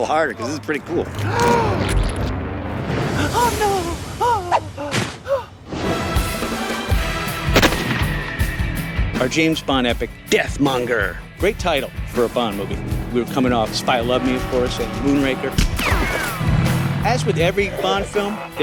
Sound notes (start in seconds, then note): 1.2 gasps; 7.4 gunshot; 15.6 gunshot